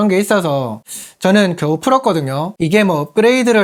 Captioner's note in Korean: 스읍